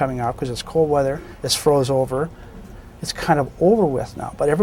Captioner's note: none